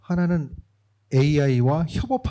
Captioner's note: speaking korean